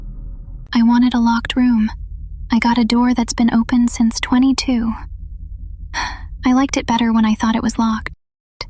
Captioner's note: sighs